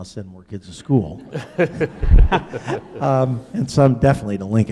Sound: laughing

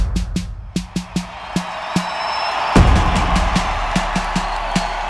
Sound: crowd cheering

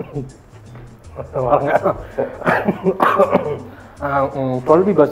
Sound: ahem

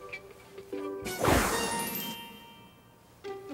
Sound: swoosh

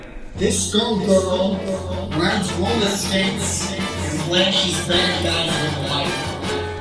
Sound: warped audio with echo

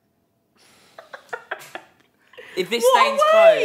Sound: laughs

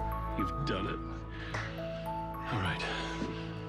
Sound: claps hands

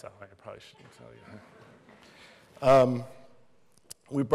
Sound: laughter

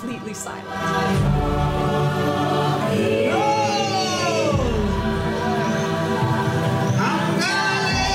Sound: shout in Na'vi; singing

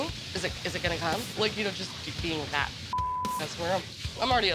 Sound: beep

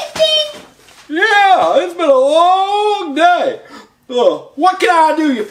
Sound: yawns

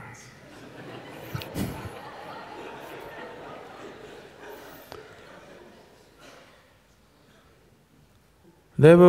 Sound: laughter

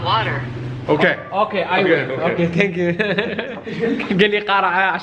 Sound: laughs

